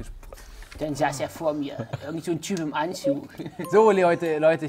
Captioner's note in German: verstellt